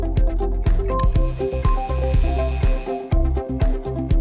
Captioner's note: neon buzz